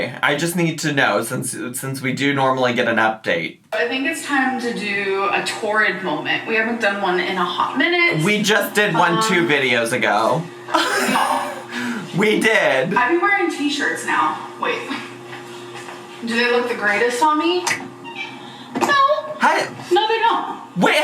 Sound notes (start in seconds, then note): 10.7 laughs